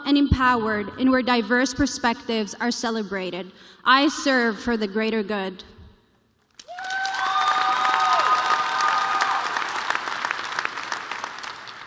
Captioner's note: cheers and applause